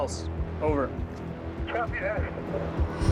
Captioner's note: speaking over radio